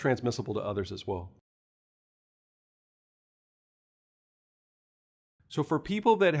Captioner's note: no audio